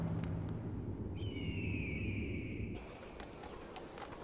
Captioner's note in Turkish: Kartal ötme sesi